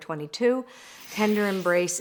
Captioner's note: air whooshing